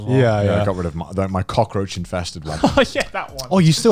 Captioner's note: laughs